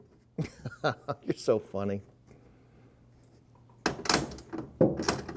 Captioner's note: chuckles